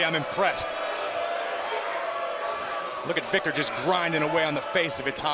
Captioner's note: crowd cheering